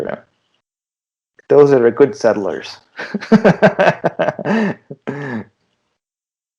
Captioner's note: laughter